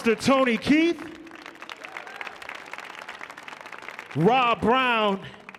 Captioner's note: audience applauding